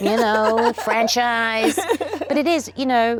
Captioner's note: Oprah laughs